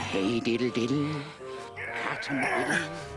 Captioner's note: grunting